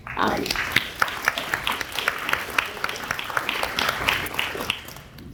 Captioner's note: audience applauds